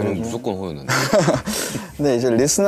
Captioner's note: haha